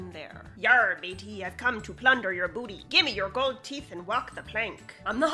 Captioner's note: pirate talk